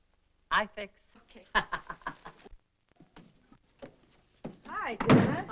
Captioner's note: Tillie chuckling